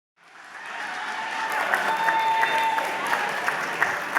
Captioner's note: applause, cheering